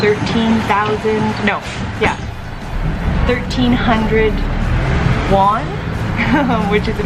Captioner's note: laughing